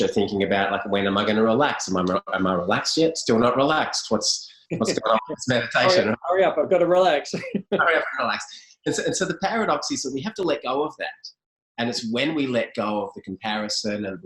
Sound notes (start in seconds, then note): 7.5 laughs